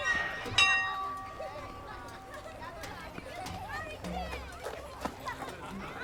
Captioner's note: background children chattering